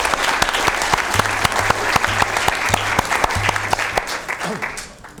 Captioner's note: applause